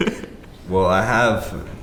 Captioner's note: laughter